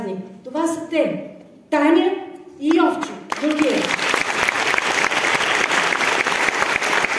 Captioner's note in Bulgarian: аплодисменти